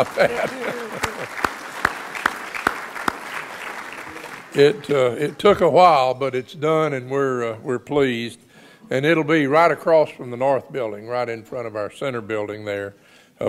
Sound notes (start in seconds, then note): 0.0 audience applauds; 2.0 applauds